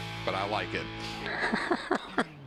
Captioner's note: laughter